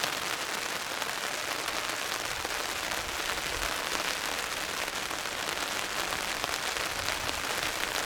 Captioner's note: rain